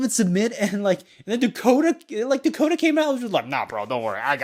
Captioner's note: chuckles